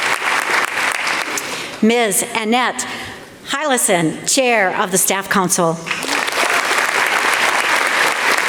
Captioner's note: applause